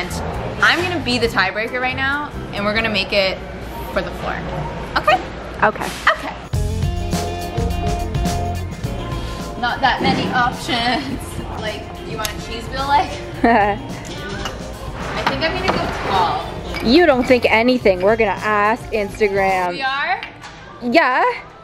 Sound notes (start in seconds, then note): 13.4 pretends to laugh